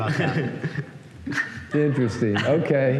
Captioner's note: laughter